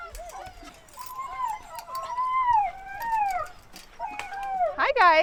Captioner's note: puppies whining